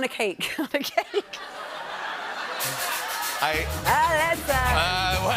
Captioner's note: laughter